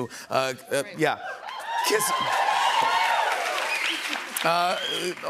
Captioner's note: cheers and applause